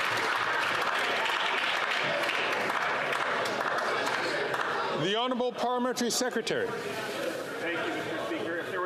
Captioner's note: some Applause